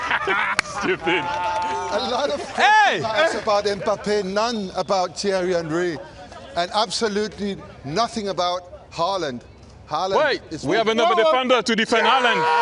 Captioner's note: applause